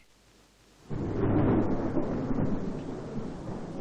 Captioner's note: thunder rumbling